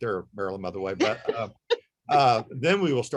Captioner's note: laughs